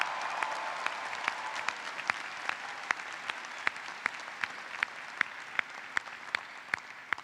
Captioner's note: applause